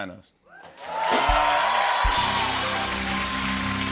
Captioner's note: cheers and applause